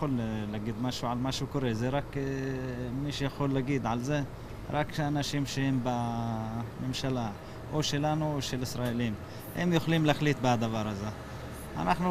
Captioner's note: speaking arabic